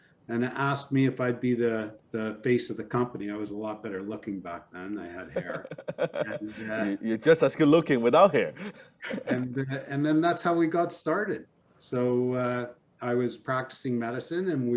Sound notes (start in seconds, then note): 9.0 both laughing